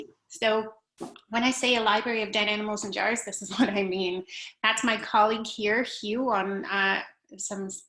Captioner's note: laughter